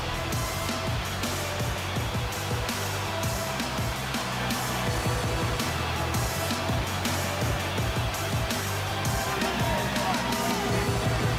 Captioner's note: crowd cheers